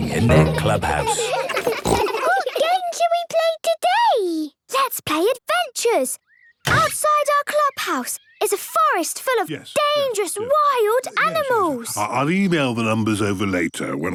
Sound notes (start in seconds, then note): 0.0 giggles, snorts